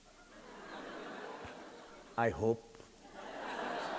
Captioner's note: audience laughing